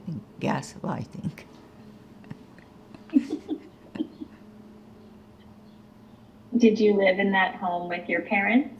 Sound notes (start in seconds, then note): 3.0 laughing